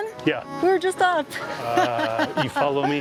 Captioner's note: laughs